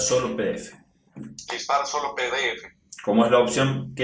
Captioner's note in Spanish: voz del dispositivo